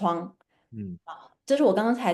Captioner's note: nonverbal grunt as interjection